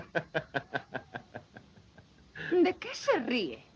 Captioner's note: Clay se ríe